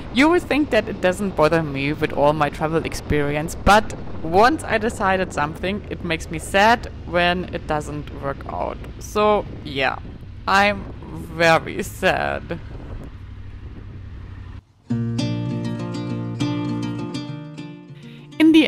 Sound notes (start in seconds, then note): 12.7 motorcycle engine idles; 14.8 upbeat acoustic music